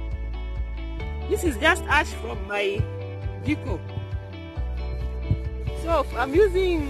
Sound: cooking stove

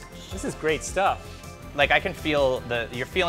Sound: laughs

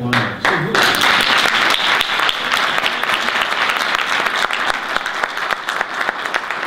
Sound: audience applause

